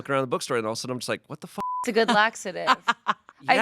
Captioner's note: beep